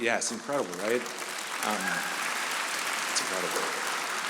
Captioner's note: audience applauding